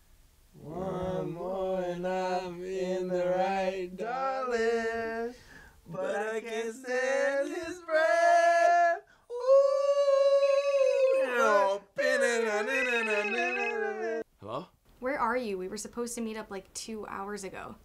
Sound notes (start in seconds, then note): 12.3 both humming; 12.3 phone ringing